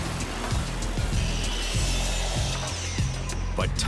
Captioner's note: power tools buzzing